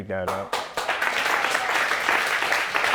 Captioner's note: audience applauding